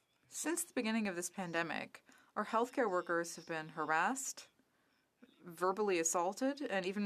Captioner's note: speaking French